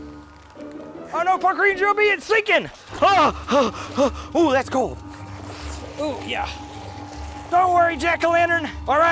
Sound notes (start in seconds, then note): 3.0 panting